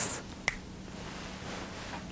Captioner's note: snap